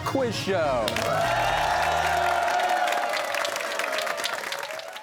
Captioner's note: cheers and applause